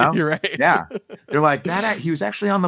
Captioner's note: laughs